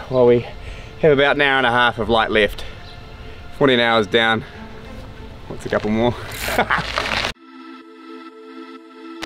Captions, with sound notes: while we have about an hour and a half of light left. 14 hours down. What's a couple more? (chuckles)